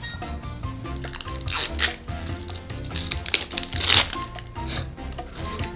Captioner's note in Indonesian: membuka bungkus plastik; tertawa